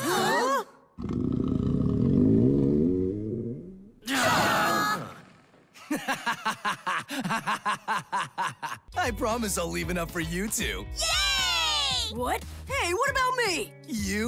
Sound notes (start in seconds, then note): 1.0 grumble; 5.8 laughing